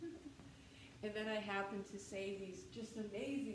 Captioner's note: laughter